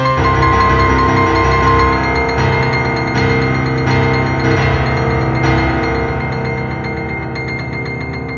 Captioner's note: ears ringing from trauma